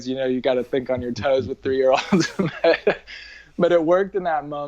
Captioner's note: laughs